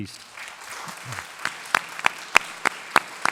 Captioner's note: applause